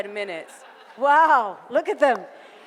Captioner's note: audience laughter